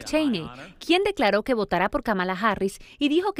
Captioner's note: habla en ingés